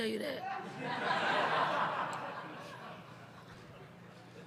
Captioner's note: audience laugh